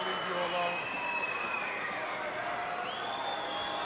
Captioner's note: crowd yelling